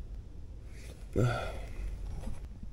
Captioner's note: sleepy sigh